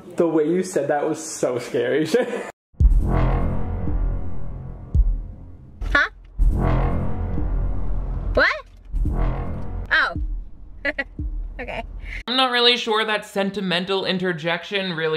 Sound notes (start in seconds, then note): 2.8 eerie music; 10.5 laughs